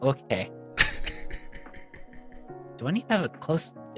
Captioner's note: laughing